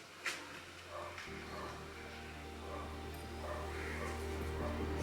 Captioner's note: dog barking